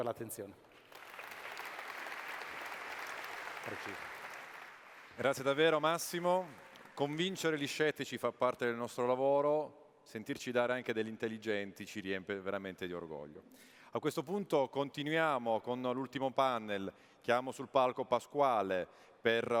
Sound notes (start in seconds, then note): 0.6 applause; 8.7 speaking italian